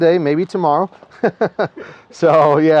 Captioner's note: laughing